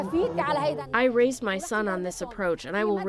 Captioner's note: through translator